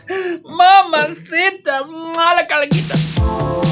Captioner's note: pain in spanish